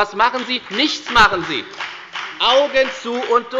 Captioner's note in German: Beifall bei der FDP